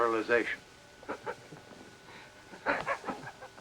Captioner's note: chuckles